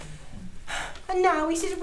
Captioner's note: sigh